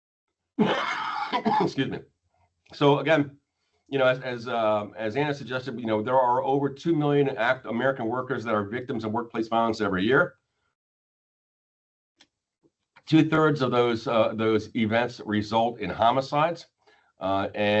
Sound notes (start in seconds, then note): 0.6 coughs